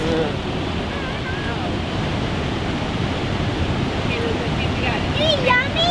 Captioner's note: water rushing rapidly continues